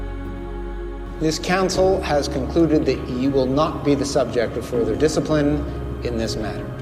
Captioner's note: voiceover